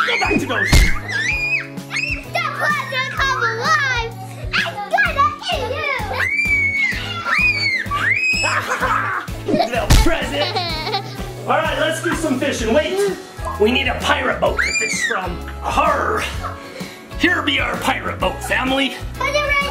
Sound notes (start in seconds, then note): 0.0 screams; 6.1 everyone screams